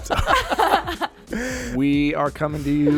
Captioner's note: all laughing